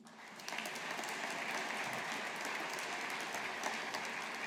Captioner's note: audience applauding